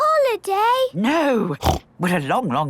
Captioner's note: snorts